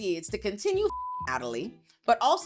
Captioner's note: beep